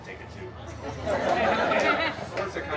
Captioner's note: guests laughing